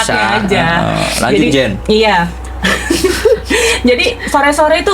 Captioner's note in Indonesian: tertawa; tertawa